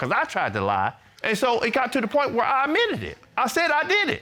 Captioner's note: none